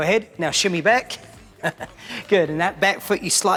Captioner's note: laughs